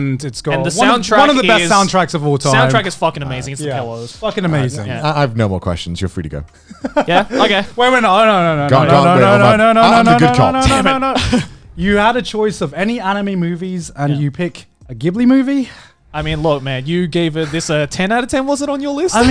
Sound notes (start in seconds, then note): 6.6 laughs